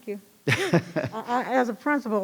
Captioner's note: laughs